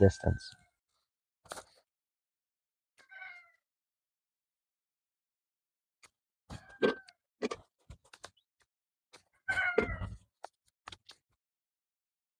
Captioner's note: peppers dropping in the bucket, rooster crowing in background